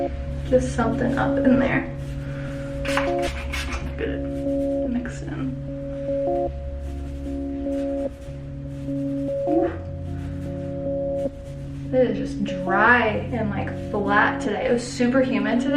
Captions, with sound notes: Just something up in there (spray bottle noises) Just mix it in It is just dry and like flat today. It was super humid today